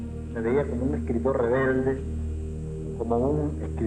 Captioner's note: speaking Spanish